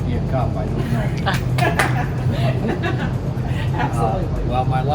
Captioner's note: clapping hands, laughing